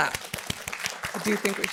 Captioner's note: audience applauding